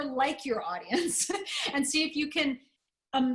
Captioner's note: laughter